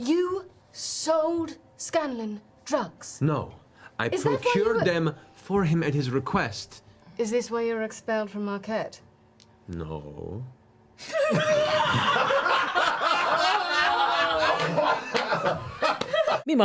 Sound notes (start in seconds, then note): 9.8 unconvincingly; 11.1 all laugh